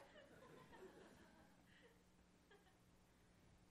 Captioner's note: laughter